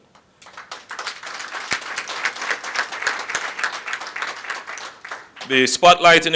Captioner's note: applause